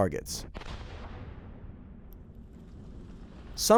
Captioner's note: bomb exploding